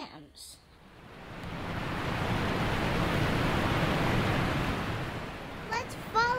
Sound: water rushing

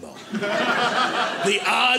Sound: audience laughing

